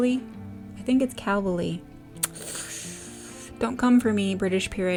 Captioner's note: sucks teeth